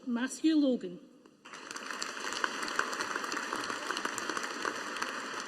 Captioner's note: audience applauding